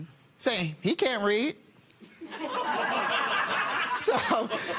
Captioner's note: laughter